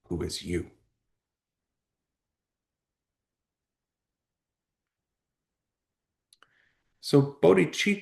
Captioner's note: pause